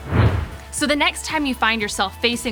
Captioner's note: whooshing